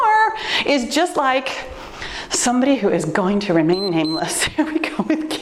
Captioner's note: timer beeps